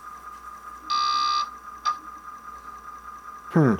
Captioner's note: C64 floppy disk sounds